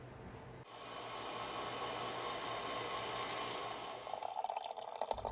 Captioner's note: machine buzzing; water burbling